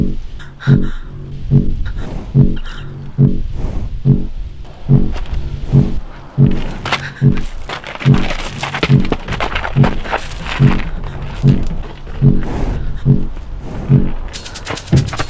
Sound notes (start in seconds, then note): 12.7 deep animal breath